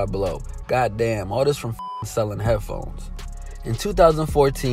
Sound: beep

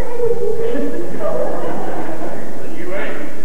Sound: laughter

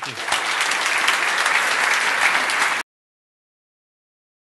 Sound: applause

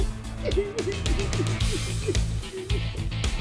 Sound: sobbing

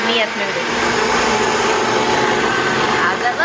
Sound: blender churns

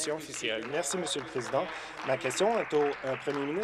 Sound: applause

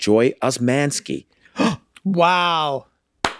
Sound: Rob gasps

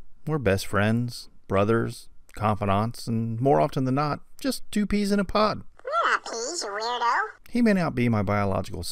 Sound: man's voice; kid's voice; man's voice

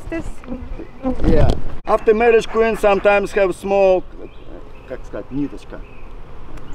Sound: mating

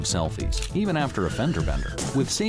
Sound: brakes squeal, cars crash

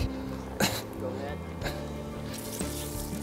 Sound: laughs

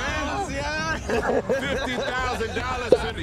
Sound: laughs

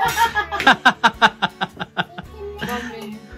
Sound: hahahaha

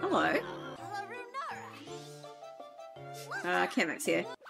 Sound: Prince Florian Speaks Gibberish Over Music

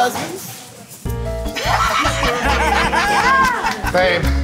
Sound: laughter

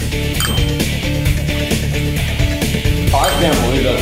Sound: score dings

